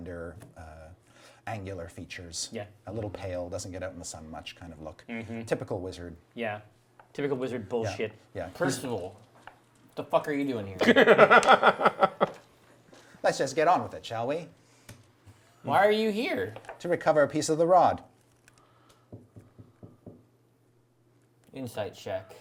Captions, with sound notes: slender angular features, a little pale, doesn't-get-out-in-the-sun-much kind of look. Typical wizard. - Yeah, typical wizard bullshit. - Percival, what the fuck are you doing here? (laughs) - Let's just get on with it, shall we? - Why are you here? - To recover a piece of the rod. - Insight check.